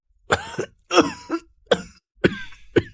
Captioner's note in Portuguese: Cof cof